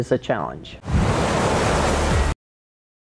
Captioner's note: waves crashing